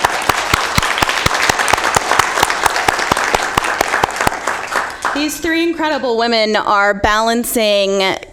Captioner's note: applause